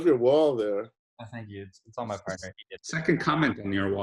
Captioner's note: murmurs